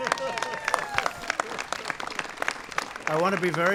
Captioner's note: applause